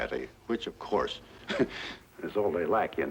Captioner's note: chortles